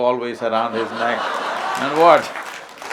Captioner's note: laughter/Applause